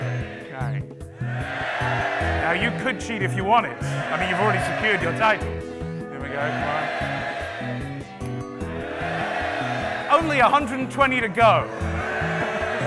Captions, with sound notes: There you go, OK. Now you could cheat if you wanted, I mean you've already secured your title. Here we go, come on. (cheering) Only 120 to go.